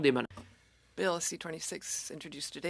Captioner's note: speaking French